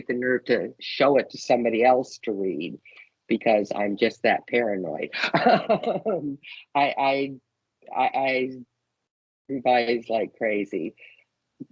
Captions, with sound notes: nerve to show it to somebody else to read, because I’m just that paranoid. [LAUGHING] I revise like crazy.